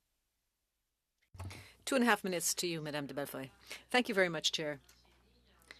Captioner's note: speaking French